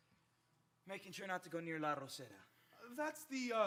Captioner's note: speaks in Spanish